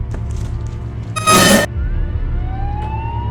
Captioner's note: screeching; siren wailing